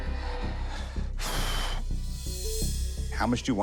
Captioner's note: sighs